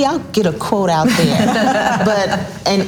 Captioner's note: all laughs loudly